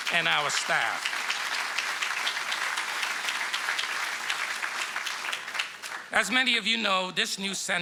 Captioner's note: applause